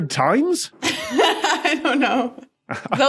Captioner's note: laughs